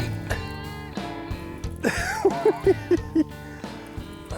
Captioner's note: giggles